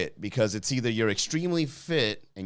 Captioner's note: none